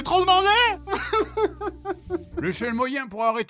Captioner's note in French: pleurs